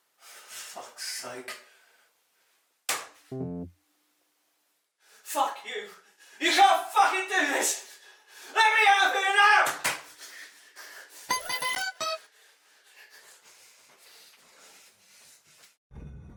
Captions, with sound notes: For fuck's sake. (bell dongs) Fuck you, you can't fucking do this! Let me out of here now! (bell chimes)